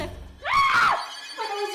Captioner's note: screams